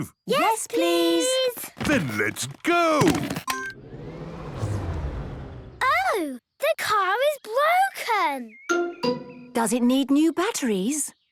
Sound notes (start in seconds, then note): 3.5 car chimes; 3.7 whirring, whirring stops